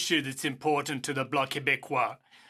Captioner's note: speaking in French